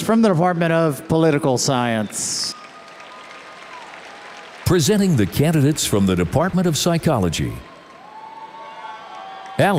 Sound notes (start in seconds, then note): 2.9 audience applauds